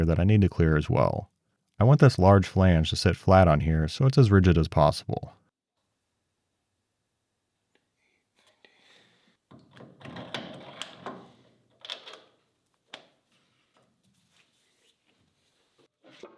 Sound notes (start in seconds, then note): 10.2 metal clanking